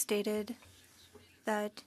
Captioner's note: speaking French